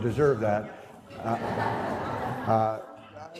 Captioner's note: audience laughter